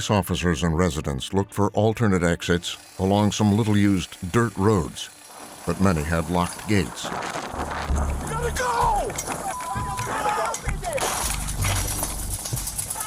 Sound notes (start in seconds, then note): 9.4 gate shaking; 10.6 indistinct yelling, gate clattering